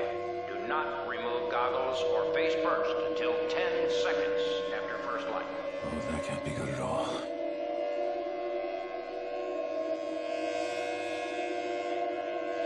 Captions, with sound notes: Do to remove goggles or face first until 10 seconds after first light. Oh, that can't be good at all. (siren blaring)